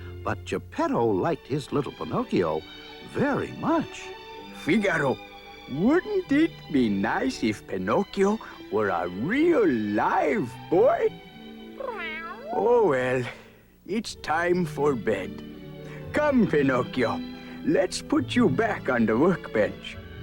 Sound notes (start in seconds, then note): 11.7 meow